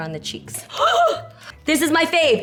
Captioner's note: gasps